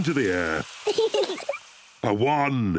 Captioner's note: both giggle